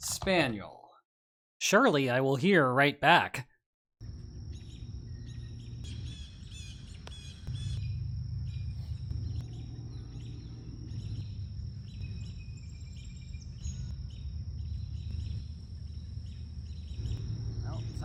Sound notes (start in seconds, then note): 7.4 sounds of nature